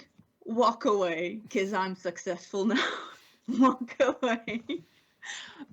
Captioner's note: laughs